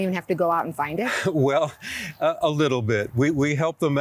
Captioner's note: laughs